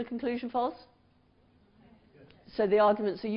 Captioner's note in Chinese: 無聲